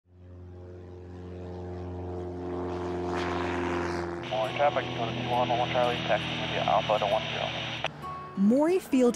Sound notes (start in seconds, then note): 0.1 airplane engine thrums; 8.0 radio's Push-To-Talk 'cli-clicks'